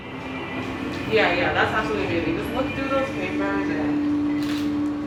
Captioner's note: talking and camera sounds